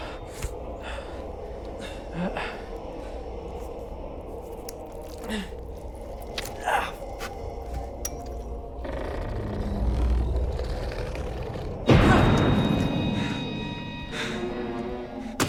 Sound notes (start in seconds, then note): 6.2 Parker moans; 7.5 growling; 11.8 dramatic instrumental flourish